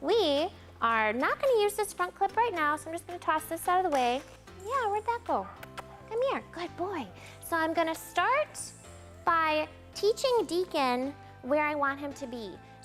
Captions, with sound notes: We are not going to use this front-clip right now, so I'm just gonna toss this out of the way. Yeah, where did that go? (lips smacking) Come here, good boy. I'm gonna start by teaching Deacon where I want him to be.